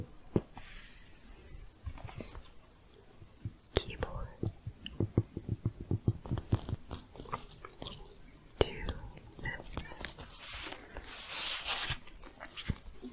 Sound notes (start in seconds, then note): 5.6 tapping changes to higher pitch; 11.0 fingers brushing across neoprene